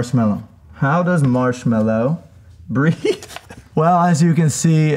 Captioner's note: laughs